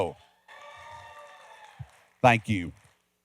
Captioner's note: cheering and clapping